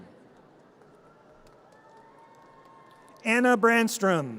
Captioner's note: audience cheers